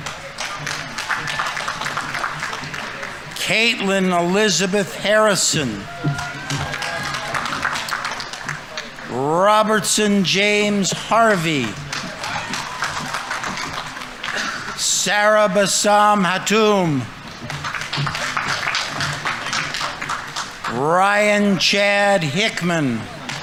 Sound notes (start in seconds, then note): 0.2 audience applauding; 6.0 audience applauding; 6.0 audience members cheering; 11.9 audience applauding; 11.9 audience members cheering; 17.5 audience applauding; 23.1 audience applauding; 23.1 audience members cheering